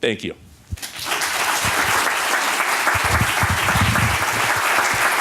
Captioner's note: applause